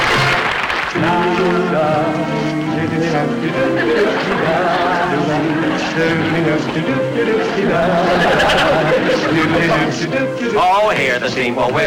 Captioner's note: music and Applause; men Humming